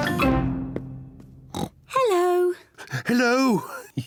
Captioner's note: oinks; snickers